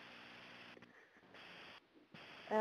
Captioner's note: static